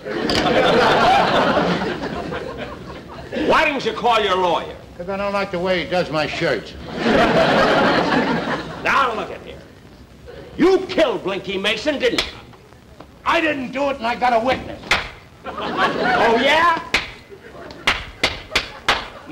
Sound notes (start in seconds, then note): 0.0 audience Laughing; 0.1 receiver Clicks; 6.3 audience Laughing; 12.2 smack; 14.8 smack; 15.4 audience Laughing; 17.6 smack Smack Smack; 17.8 smack